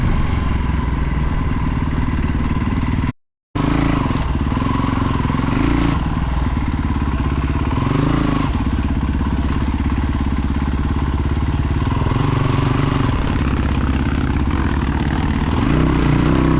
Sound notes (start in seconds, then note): 3.6 engine revving